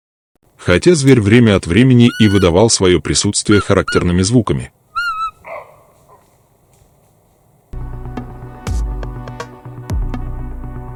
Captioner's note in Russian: гавканьем